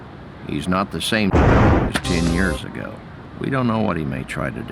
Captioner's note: convenient thunder